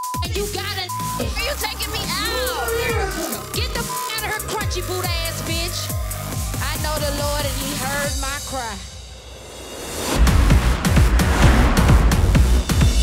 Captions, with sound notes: - Why are you taking me out? - Get the (beep sound) here crunchy boot ass bitch. I know the Lord and he heard my cry. (hard music)